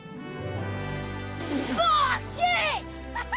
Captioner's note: sputters; laughs